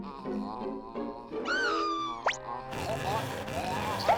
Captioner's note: groaning; screaming; gagging